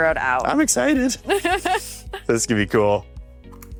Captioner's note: chuckles